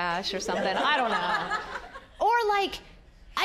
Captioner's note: audience laughing